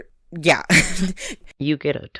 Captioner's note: laughs